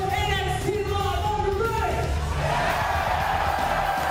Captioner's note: cheers and applause